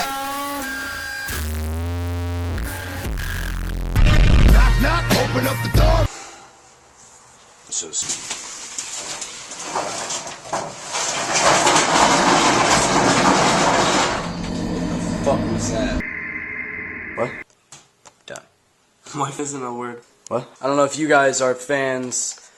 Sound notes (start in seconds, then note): 6.1 sigh